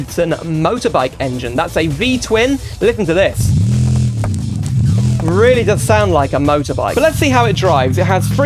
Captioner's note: engine Revs